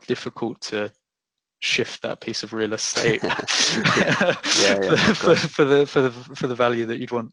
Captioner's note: laughs